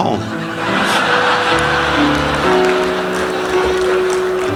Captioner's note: audience laughing